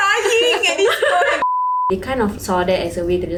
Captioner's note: cries